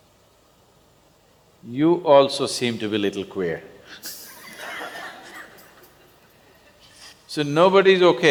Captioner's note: laughter